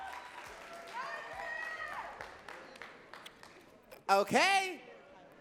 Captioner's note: audience cheering and clapping